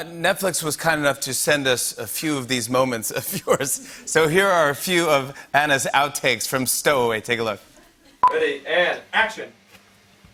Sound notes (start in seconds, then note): 3.1 chuckling; 8.2 beeps